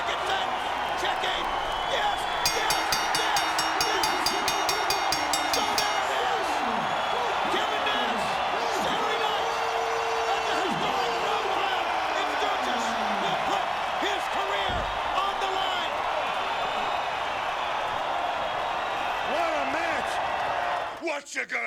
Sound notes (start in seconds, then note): 2.4 bell rings; 3.9 crowd cheers